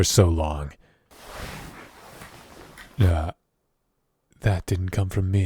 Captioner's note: bed movement